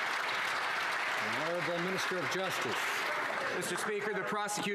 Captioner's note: some Applause